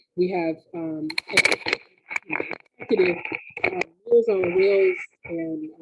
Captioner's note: sound glitch